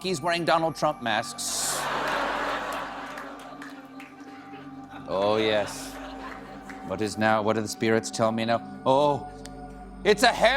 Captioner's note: laughter